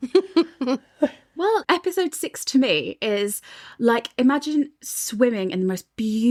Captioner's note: laughing